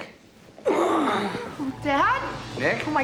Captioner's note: groans